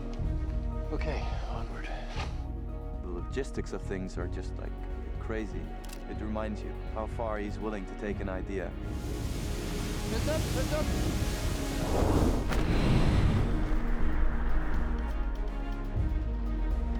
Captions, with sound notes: OK, onward. The logistics of things are just like, crazy. It reminds you how far he's willing to take an idea. Heads up! Heads up! (Hard wind)